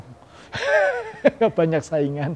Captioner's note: laugh nervously